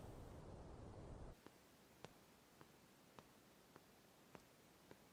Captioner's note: footsteps tapping